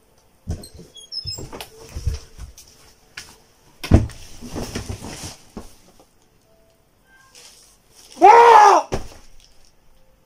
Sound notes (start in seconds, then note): 8.1 screams